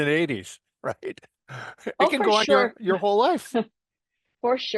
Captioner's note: laugh